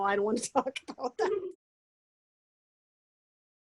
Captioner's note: laughs